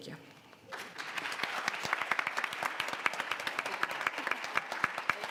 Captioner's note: audience applauds